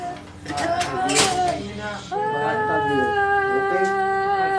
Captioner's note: crying